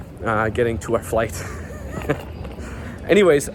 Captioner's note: laughs